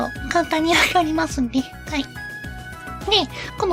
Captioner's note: laughs